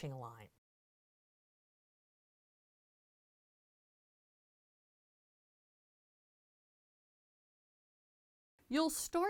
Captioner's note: no Sound Present